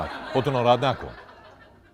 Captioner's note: laughter